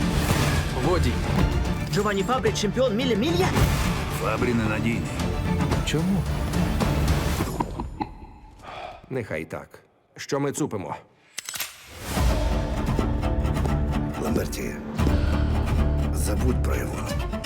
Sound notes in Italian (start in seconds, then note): 7.0 trangugia; 8.3 sospira; 11.3 clic; 12.2 suona musica incalzante